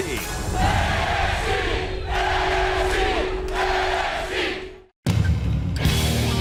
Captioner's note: crowd cheering